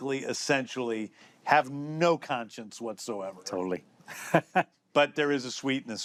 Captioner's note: chuckles